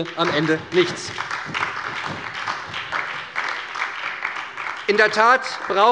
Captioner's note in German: Beifall bei der SPD